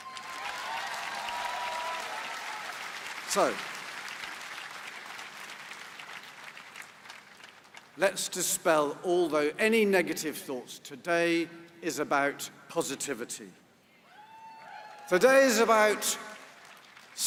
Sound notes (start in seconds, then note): 3.9 applause